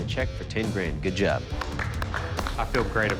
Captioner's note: applause